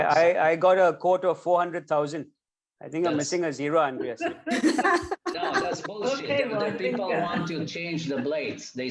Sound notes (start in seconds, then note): 4.0 laugh